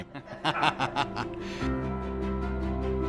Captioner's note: laughs